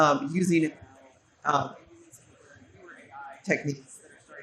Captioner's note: faintly speaking